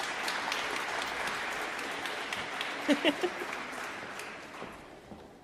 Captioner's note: applause